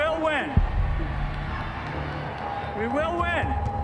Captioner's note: cheers and applause